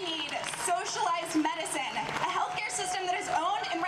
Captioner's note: audience cheers